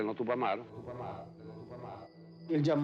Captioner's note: echoing